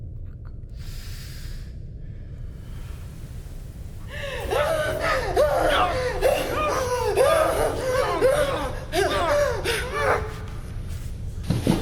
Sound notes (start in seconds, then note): 4.1 woman gasping; 8.6 Keith whimpering